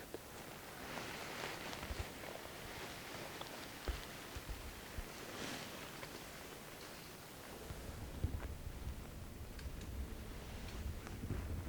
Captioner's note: deer raking branches